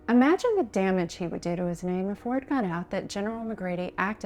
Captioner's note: none